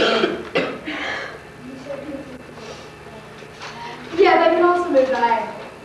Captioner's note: student speaks softly